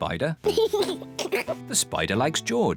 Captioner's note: laughs